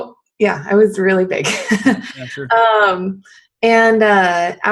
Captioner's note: laughs